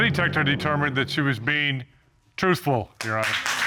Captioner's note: applause